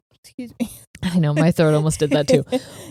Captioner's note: giggling